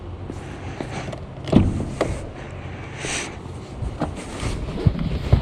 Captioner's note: car door slams